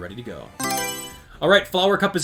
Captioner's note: Mario Selection Sound